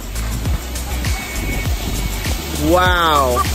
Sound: splashing

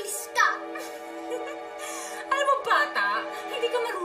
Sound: giggles

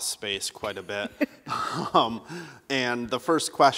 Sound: laughter

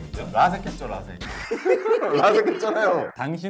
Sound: haha

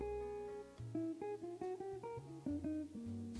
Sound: none

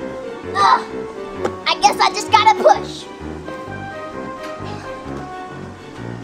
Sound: grunts

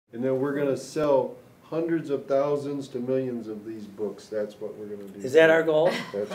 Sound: laughter

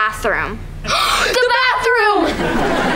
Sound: gasping

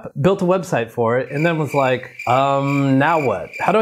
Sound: cricket chirping

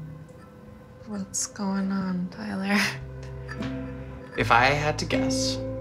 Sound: chuckles

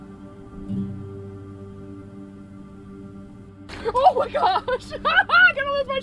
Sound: laughs

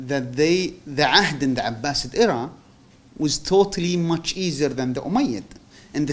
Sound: non-english

